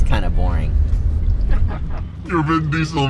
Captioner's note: laughing